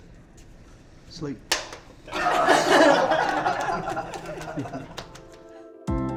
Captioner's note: clank; laughter